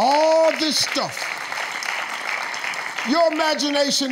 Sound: audience claps

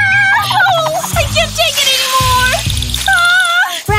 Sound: screaming

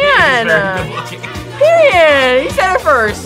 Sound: laughs

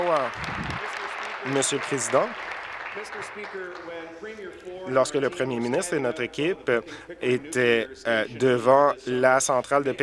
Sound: applause

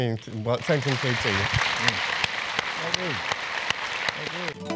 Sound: applause

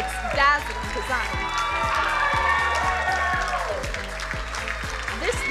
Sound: crowd cheering

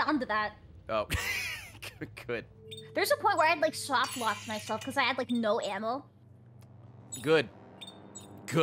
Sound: laughs

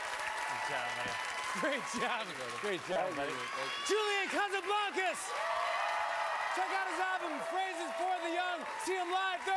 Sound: cheers and applause

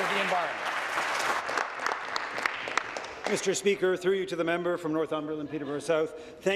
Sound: applause

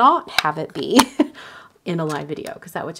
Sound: chuckles

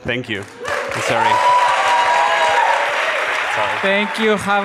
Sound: audience claps and cheers

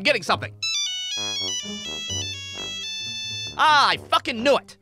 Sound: Nokia ringtone plays

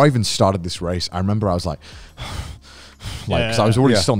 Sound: heavy breathing

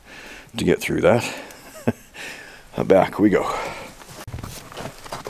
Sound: chuckle

